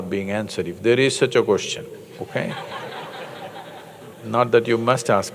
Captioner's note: laughter